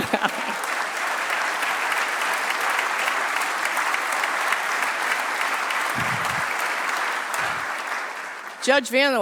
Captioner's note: applause